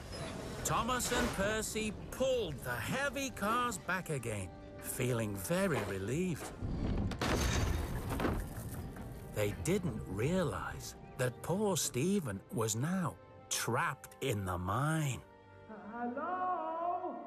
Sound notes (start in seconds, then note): none